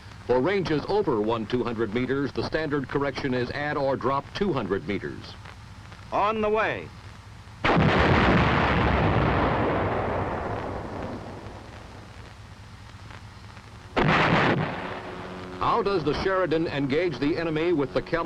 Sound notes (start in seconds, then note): 7.6 gun booming; 13.9 airplane buzzing; 13.9 shell exploding